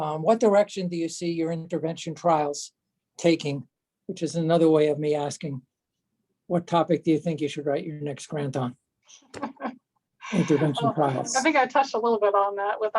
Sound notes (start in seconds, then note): 10.3 laughs